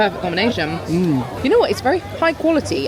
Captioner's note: grunting satisfactorily